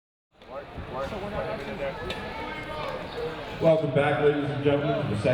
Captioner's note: audience chattering